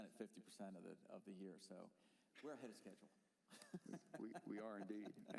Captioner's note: laughter